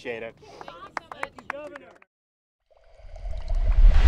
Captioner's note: applause